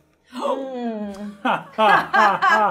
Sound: gasps; both forcing laughter

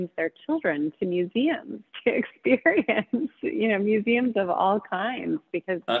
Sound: laughs

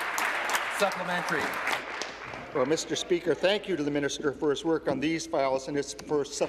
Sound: applause

